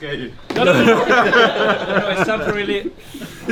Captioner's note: all laughing